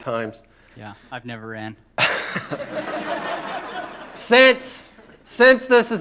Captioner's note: laughter